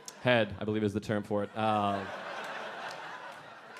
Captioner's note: audience laughing